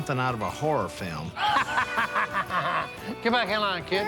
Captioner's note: laughing